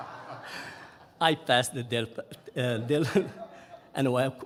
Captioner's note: audience laughing; laughing